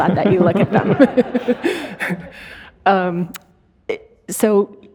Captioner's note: audience laughing